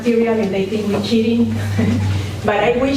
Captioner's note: laughs